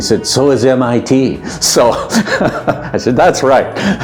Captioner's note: laughter